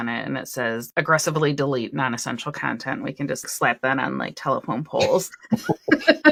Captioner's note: laughter